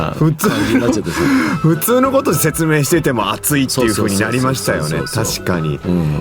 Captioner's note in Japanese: 笑い